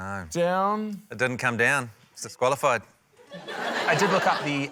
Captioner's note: laughter